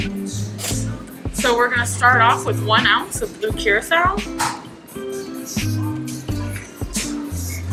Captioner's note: pouring